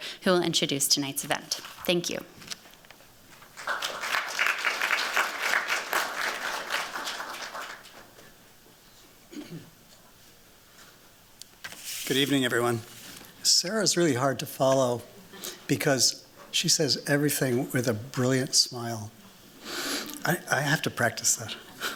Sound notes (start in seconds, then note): 3.4 applause